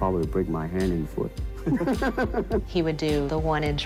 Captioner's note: both chuckling